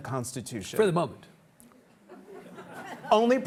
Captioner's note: audience laughs